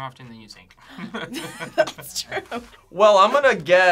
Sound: laughs

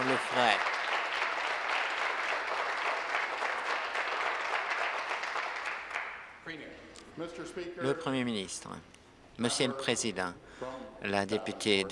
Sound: applause

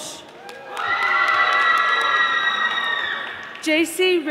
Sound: audience applauding

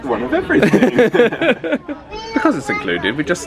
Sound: they laugh

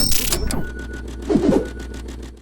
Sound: digital whooshing

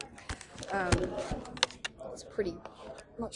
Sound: papers shuffling

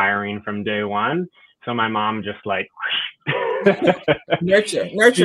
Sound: laughs

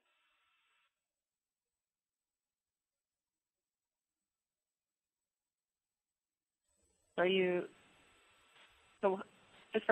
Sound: pause

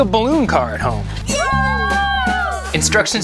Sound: kids cheering

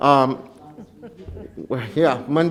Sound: laughing

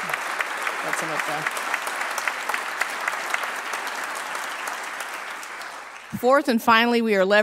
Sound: applause

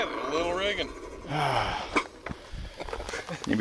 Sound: sighs

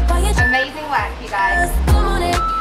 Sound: timer beeps

